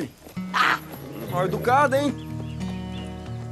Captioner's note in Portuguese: Lulli grita; música suave